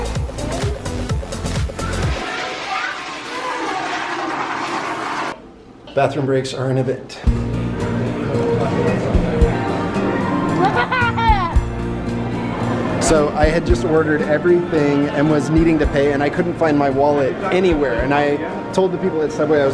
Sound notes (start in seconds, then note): 2.0 flushing toilet; 10.3 laughing